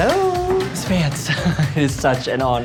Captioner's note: chuckles